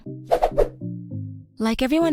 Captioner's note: playful whooshing